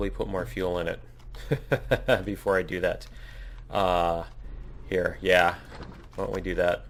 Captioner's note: laughs